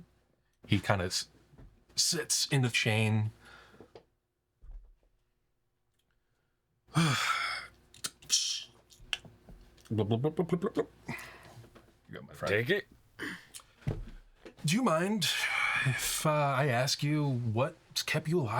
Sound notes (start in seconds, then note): 4.3 sighs; 7.0 scoffs